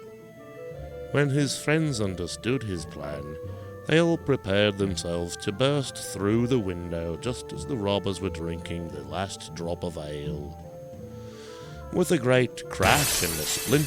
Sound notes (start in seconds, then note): 10.9 glass shattering